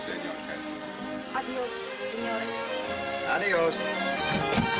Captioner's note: in spanish; in spanish